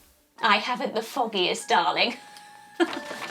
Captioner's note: chuckles